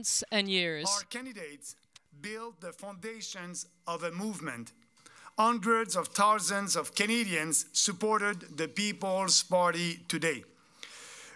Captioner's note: speaking french